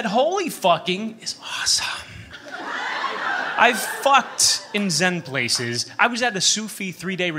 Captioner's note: whispers; laughter